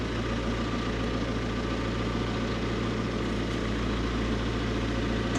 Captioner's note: engine humming continues